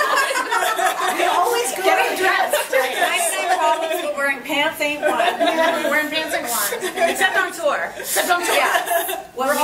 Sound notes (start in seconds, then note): 0.0 laughs; 6.5 laughs